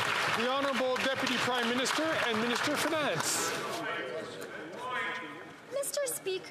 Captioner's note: some Applause